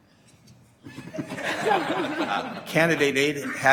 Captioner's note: laughing